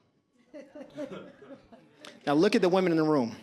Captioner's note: audience laughs